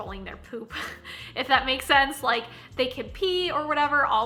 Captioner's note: chuckling